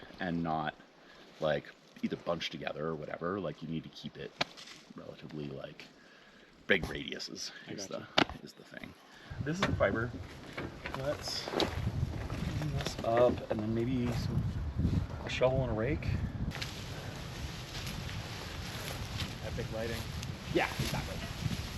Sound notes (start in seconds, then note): 16.5 grass rustling